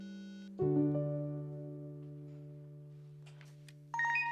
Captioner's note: ting-ting, dialing